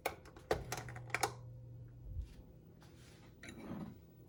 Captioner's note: oven whirring